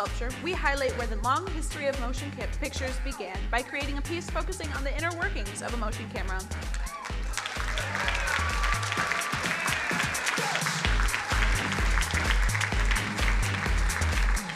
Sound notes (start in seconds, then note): 6.5 crowd cheering and applauding; 10.8 upbeat music